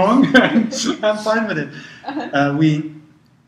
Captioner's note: laugh